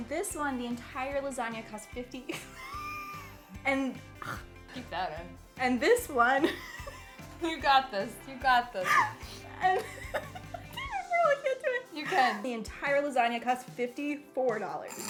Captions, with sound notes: - This one, the entire lasagna cost 50. (laughs) - Keep that in. - And this one. (laughs) - You got this, you got this. (laughs) - I really can't do it! - You can. - The entire lasagna costs $54.